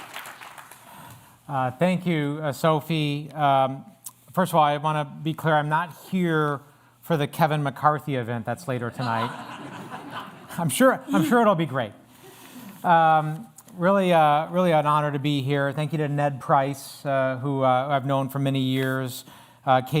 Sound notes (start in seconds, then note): 9.0 laughter